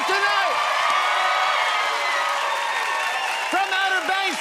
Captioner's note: cheers and applause